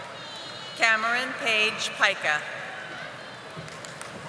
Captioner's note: audience applauding